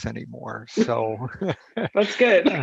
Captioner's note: chuckles